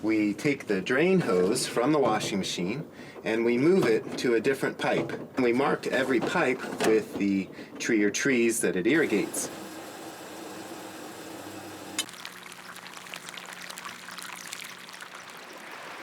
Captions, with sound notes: we take the drain hose from the washing machine and we move it to a different pipe. And we mark every pipe with the tree or trees that it irrigates. [washing machine whirs] [water pours on ground]